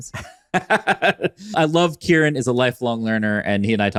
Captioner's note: laughs